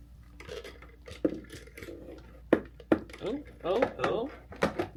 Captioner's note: phone clatters